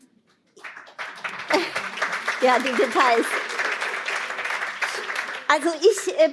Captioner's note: applause